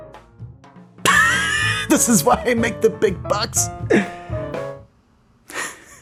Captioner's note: exaggerated Laugh; genuine Laugh